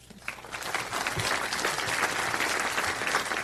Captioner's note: applause